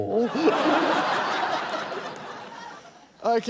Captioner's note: laughter